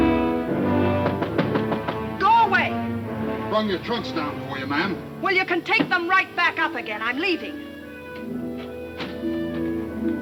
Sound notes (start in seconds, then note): 0.9 loud knocking